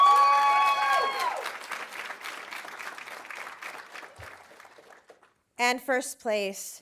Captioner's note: audience cheering; audience applauding